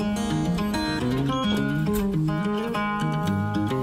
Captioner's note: laid back guitar music; beep